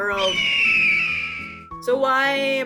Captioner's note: eagle screech sound here